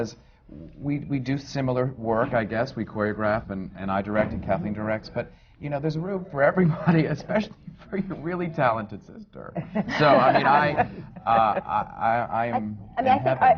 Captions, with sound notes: Because we do similar work, I guess. We choreograph, and I direct and Kathleen directs. But you know (LAUGHS), there's room for everybody, especially for your really talented sister! (LAUGHTER) So I mean, I am in heaven.